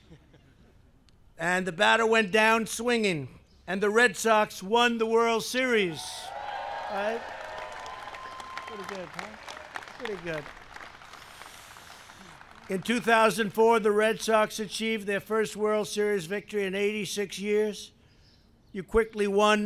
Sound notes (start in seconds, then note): 5.8 applause